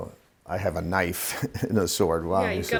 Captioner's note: laughs